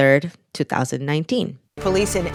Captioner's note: soundbite of archived recording